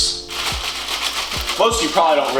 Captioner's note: noodle sounds